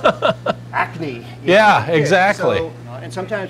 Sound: laughing

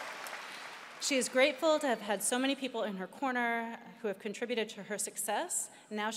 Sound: cheering and applause

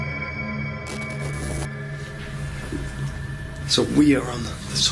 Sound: electrical buzzing

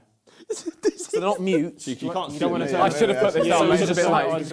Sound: crowd mumbling

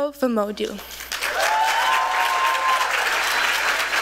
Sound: applause

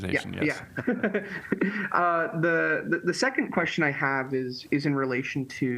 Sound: laughter

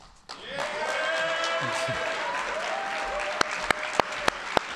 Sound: audience applauding

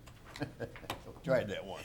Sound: laughing

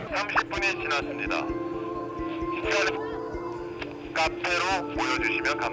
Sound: gets radioed

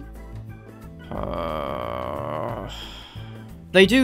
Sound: groan

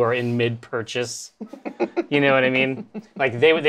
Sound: laughs

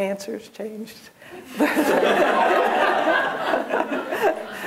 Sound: laughter

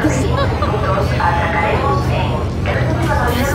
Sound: laughing

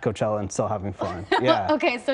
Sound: laughter

